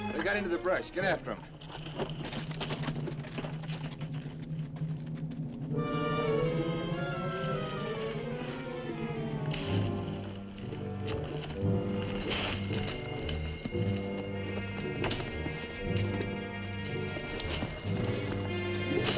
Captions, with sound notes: - They got into the brush, get after 'em. (dramatic music) (horse hooves clopping) (dramatic music)